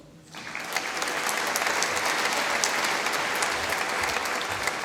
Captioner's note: applause